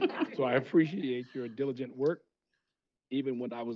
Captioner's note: laughter